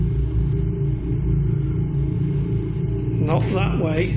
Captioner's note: REM pod beeping